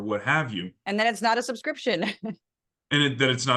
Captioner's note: laugh